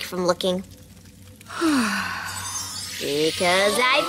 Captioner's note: yawns